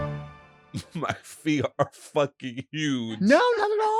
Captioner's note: laughs